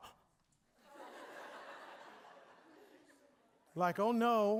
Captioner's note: audience laughing